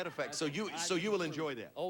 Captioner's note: audience laughing